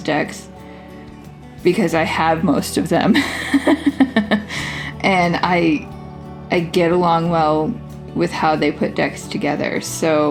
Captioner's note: laugh